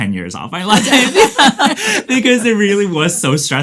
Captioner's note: all laugh